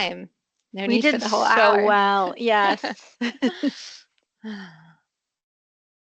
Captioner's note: laughs